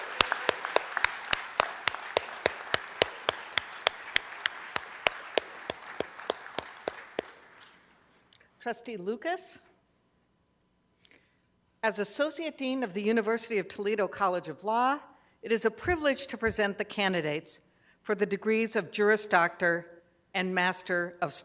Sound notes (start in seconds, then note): 0.0 applause